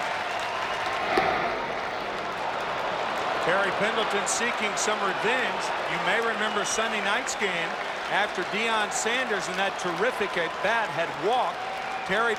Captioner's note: applause